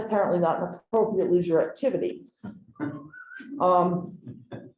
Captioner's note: chuckling